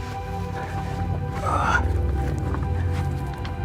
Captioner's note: grunts